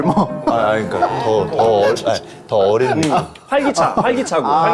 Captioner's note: flustered